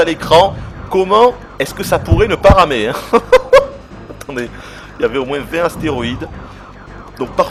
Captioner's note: laughs